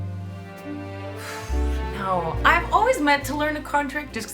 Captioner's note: sighs